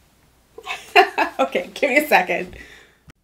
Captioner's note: laughing